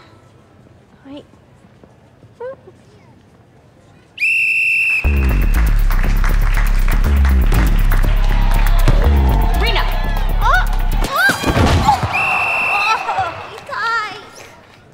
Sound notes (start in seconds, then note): 4.2 whistle blowing; 5.0 crowd clapping; 12.0 whistle blowing